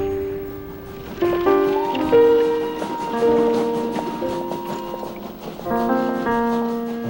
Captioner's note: whistle Blowing